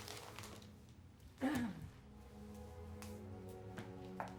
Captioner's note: clears throat